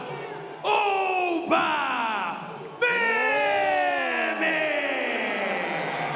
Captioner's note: audience cheering